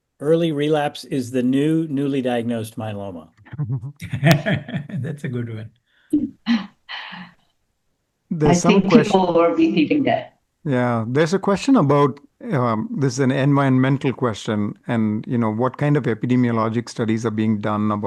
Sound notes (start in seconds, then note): 3.5 laughs